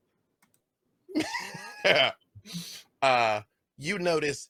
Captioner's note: laughs